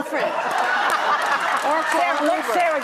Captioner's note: audience laughs